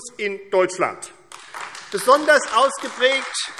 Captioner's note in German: Beifall AfD